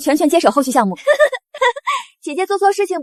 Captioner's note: laughs